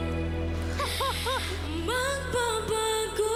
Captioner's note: chuckles